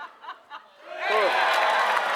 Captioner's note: applause